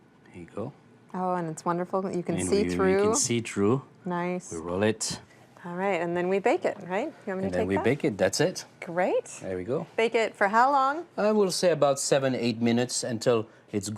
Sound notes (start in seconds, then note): none